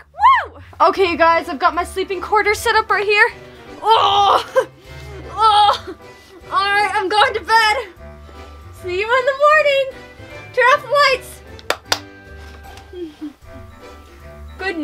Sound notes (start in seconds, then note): 4.0 grunting; 11.6 clapping